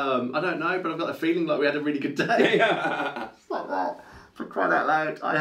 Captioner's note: laughs